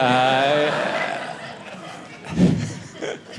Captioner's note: audience laughing